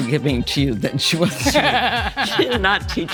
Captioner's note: laughs